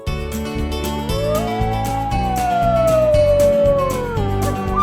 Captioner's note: wolf howling; elk bugling